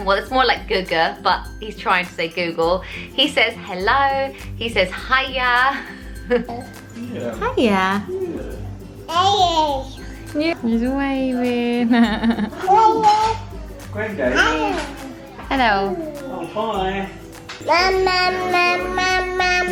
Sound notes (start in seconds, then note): 6.2 laughs; 11.8 mom Laughs; 14.1 baby talking